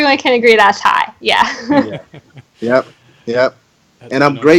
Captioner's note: laughing